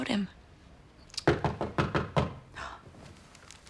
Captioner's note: knocking